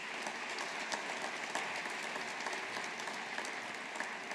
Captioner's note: audience applauding